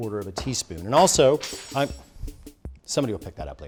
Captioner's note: clank of spoon on floor